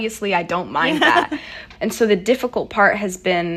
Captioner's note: laughter